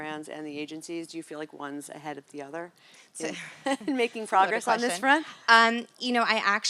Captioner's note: laugh